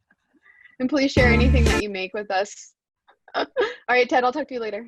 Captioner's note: laughs